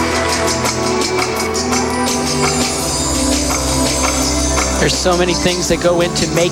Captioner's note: applause